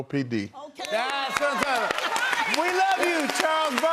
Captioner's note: cheers and applause